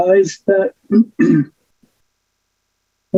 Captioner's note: clears throat